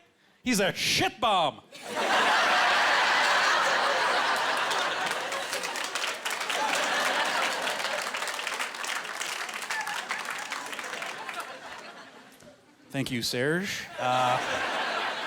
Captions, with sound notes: He's a shit bomb!" (Laughing) (Clapping) Thank you, Serge.